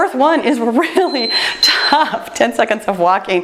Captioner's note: timer beeps